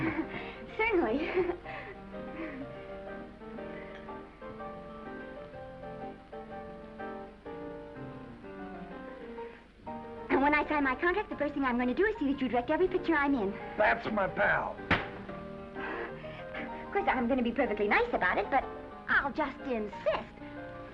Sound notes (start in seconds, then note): 1.1 laughs; 2.0 gentle music; 14.8 hand thuds; 15.8 Esther chuckles